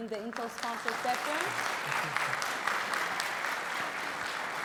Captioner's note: audience clapping